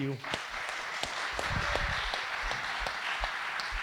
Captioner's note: audience applauding